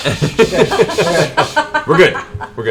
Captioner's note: laughs